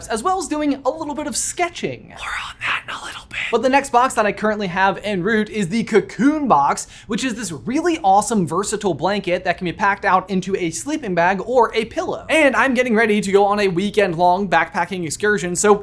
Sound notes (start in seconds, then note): none